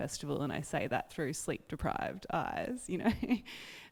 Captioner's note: laughs